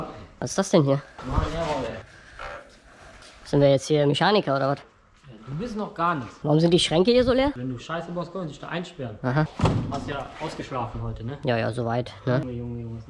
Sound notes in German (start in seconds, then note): none